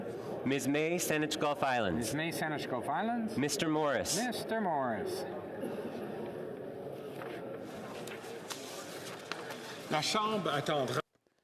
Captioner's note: calling of recorded vote